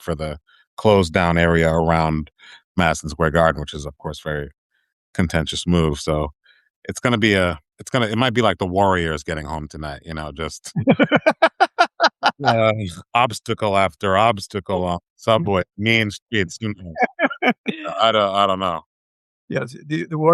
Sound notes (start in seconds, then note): 12.1 laughing